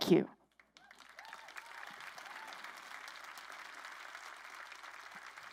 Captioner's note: crowd applauding